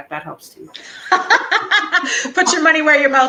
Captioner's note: laughing